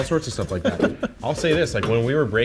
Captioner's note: laughs